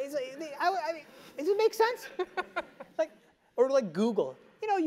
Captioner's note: laugh